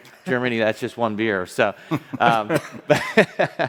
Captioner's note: laughs